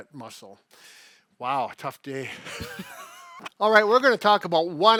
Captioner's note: chuckles